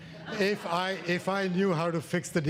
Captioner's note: audience laughs